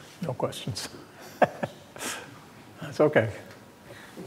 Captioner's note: laughs